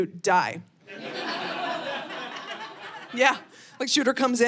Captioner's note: audience laughing